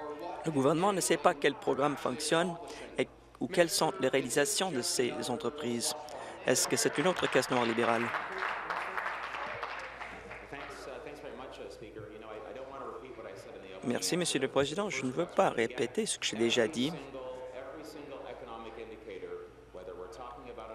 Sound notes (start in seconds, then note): 10.5 applause